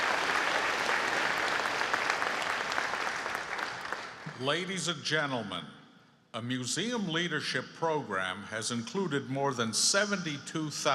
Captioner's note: applause